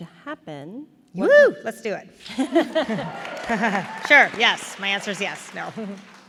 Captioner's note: applause